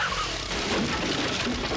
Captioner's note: chickens clucking; crash